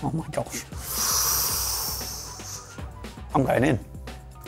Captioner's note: hissing